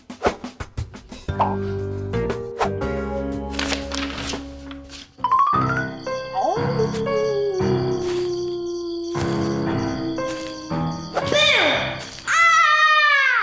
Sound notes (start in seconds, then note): 0.1 sneaky music; 5.4 crickets chirping; 5.8 owl hooting; 11.3 spooky music